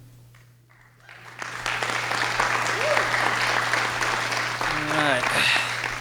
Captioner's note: audience clapping